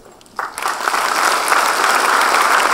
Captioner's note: applause